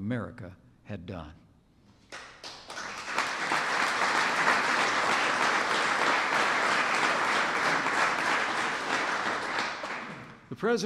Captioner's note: applause